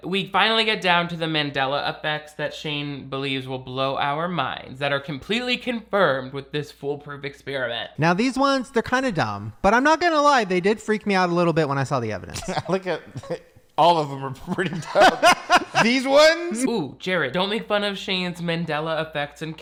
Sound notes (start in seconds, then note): 14.4 Shane laughs; 14.4 laughs